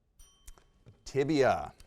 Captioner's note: bell dings